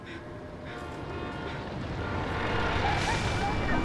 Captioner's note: car horns honking; vehicle horns honking, indistinct chatter